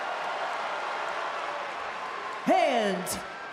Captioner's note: crowd cheers